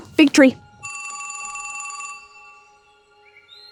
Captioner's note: phone ringing